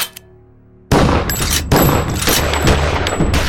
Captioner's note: gunshots